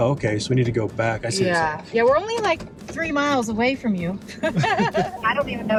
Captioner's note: laughs